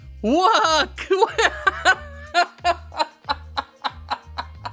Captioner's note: laughing